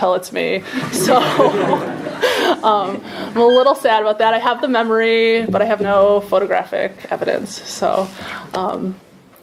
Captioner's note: laughter